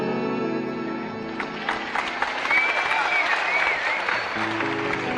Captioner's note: music ends, applause